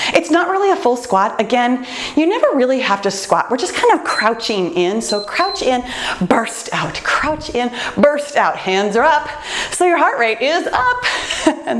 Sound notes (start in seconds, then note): 5.0 timer beeps